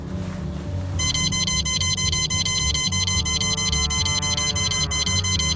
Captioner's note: scanner device beeps